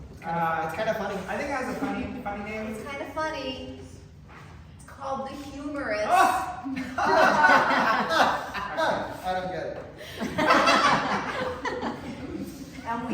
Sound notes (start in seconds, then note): 6.5 laughter